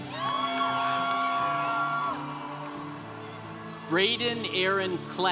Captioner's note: congregation cheering